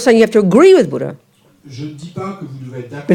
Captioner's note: audience member speaks in French